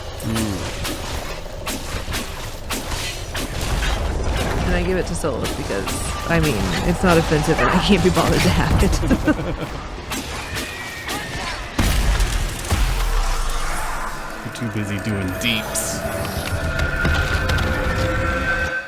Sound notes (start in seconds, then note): 10.7 tortured Souls Released In Demons' Screams; 11.6 green Electric Noises